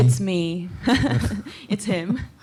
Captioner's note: laughter